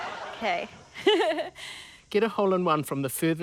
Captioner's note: laughs